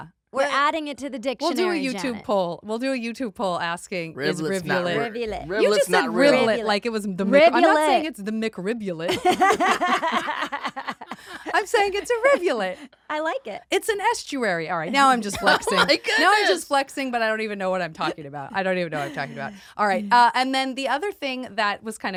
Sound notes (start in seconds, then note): 9.2 laughs